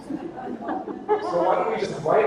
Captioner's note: audience laughter